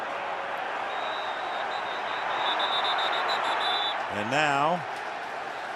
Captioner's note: whistling